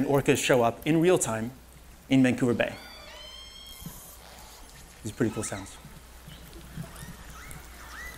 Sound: orca sounds

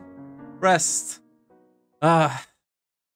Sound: sigh

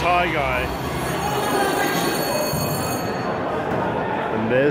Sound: bell rings

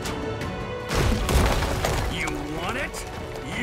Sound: ground rumbles

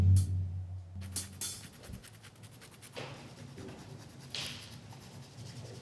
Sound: nail file scratching

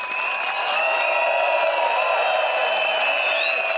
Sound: crowd cheers

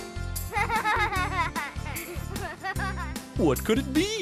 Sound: sound of children playing

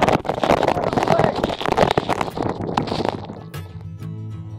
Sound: water pounding

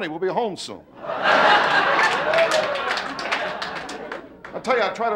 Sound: audience laughing

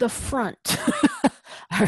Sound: laugh

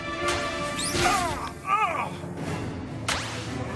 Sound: groaning

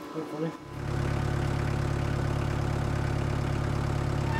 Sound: engine purring

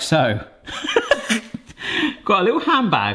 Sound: chuckles

